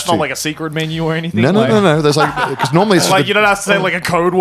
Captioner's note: laughs